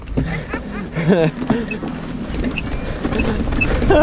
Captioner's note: laughing